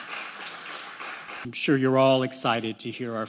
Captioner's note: applause